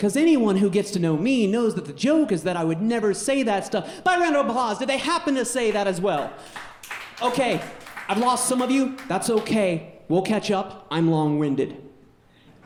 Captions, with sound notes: "because anyone who gets to know me knows "that the joke is that I would never say that stuff." By round of applause, did they happen to say that as well? (audience clapping) Okay, I've lost some of you. That's okay. We'll catch up. I'm long-winded.